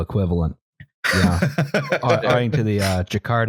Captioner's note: laughs